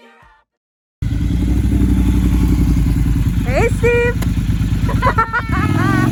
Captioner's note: music fades out; motorcycle; laugh